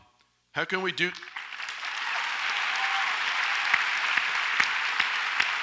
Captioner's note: audience applauds and cheers